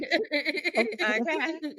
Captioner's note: laughter